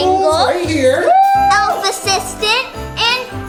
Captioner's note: cheers